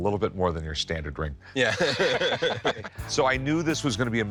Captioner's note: both laugh